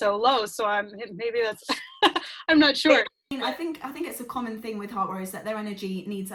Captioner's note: laughs